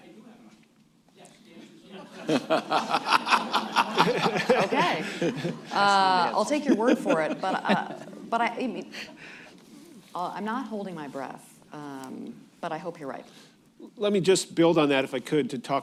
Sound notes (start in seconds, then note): 4.9 off mic; 6.9 laughter